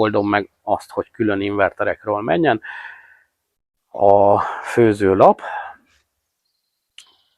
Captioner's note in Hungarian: sóhajtás